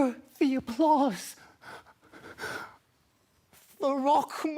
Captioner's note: sharp breaths